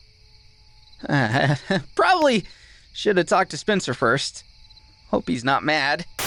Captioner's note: awkward chuckle